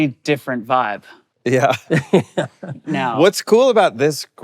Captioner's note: laughing